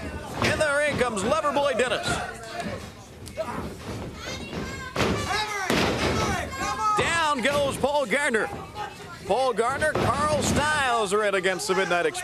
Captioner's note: crowd chatter